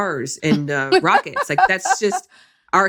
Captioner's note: laughs